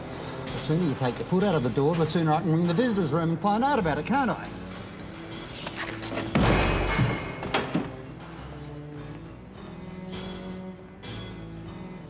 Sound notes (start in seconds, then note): 5.2 mutters; 6.1 slams door